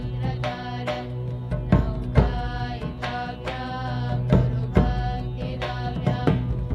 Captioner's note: none